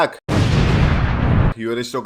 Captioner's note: boom